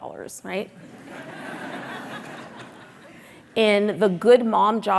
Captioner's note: audience laughing